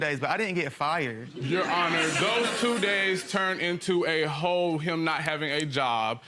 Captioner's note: audience laughing